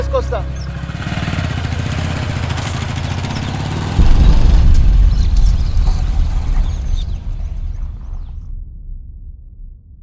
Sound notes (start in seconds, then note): 6.1 huge explosion; 7.3 birds fluttering; 8.6 rocks splashing in water